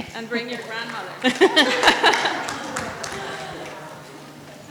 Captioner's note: laugh